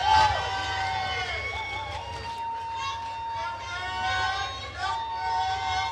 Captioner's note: attendees cheering and applauding